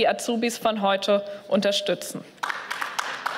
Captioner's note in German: Beifall